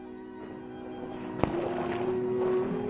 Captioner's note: sloshing